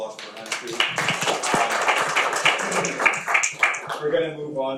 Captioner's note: audience applauding